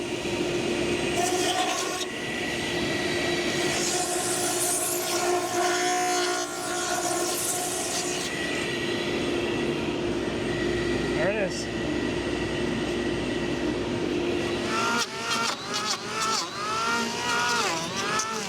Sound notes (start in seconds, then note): 5.6 sander buzzing continues; 11.7 sander humming; 14.0 sander buzzing